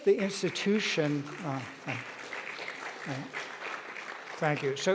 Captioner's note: audience applauding